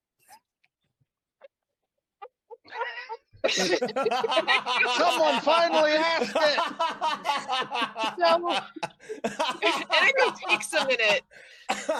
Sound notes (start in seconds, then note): 0.1 silent pause with repressed laughter in background; 3.4 everyone breaks and laughs; 6.8 laughter continues; 11.7 laughter continues